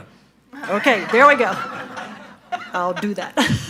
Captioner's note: audience laughing